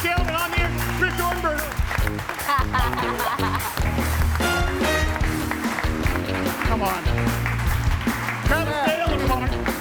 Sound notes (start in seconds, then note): 1.9 upbeat music; 2.4 laughs; 4.0 audience applauds and cheers